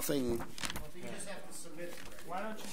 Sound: overlapping chattering

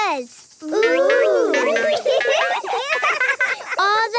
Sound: laughing

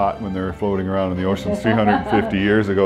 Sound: laughing

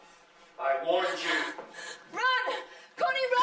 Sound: gasping

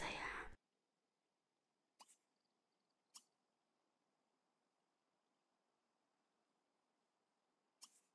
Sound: awkward silence

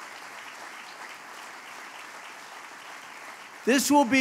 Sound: applause

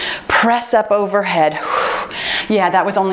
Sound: timer beeps

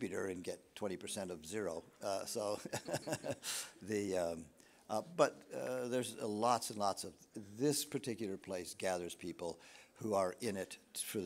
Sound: laughs

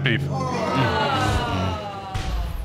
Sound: audience groans

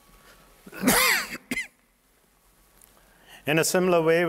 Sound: coughing

